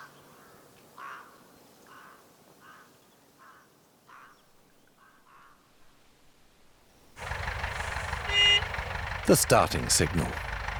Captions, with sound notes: [engine rumbles, horn honks] The starting signal.